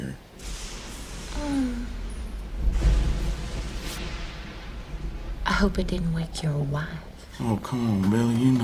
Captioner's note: thunder & lightning